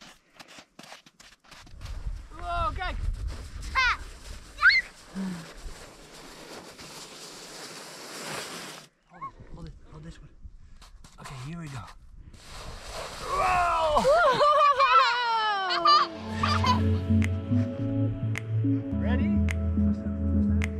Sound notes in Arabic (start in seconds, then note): 5.6 زجاجة تنزلق على الثلج; 16.4 يضحكان